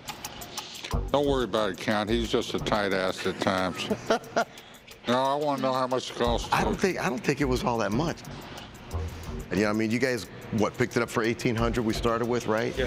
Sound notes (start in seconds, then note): 3.1 Danny laughs